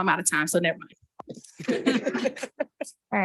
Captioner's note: participants laughing